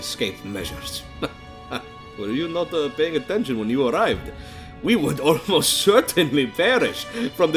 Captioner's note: chuckle